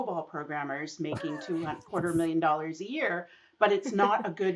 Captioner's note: laughing